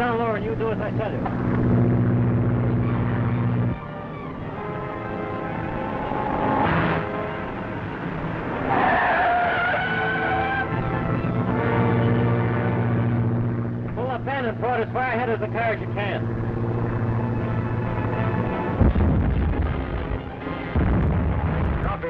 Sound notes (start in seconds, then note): 1.9 engines droning; 1.9 suspenseful music; 8.8 tires screeching; 12.0 engines droning; 18.7 explosions booming